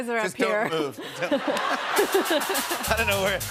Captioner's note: laughter; funky music plays